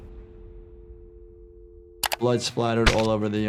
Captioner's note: spattering music; keyboard clacking